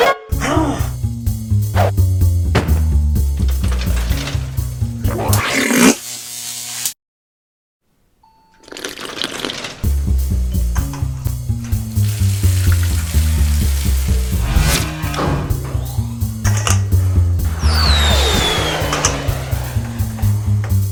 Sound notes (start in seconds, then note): 2.2 machinery opening up; 5.0 zappy blort, electricity; 8.5 machinery closes; 11.7 liquid spraying; 17.4 missile fires, whistling